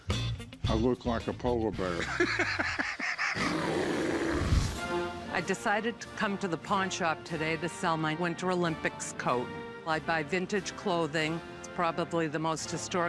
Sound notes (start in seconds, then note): 1.9 laughs; 2.5 bear growling